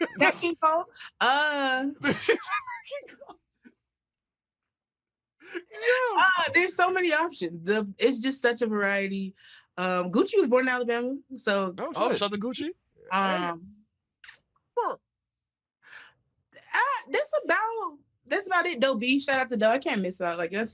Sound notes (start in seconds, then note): 5.5 laughs